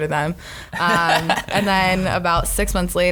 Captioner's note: laughs